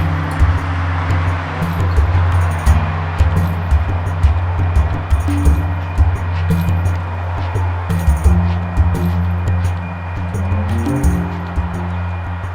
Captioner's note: train and road noise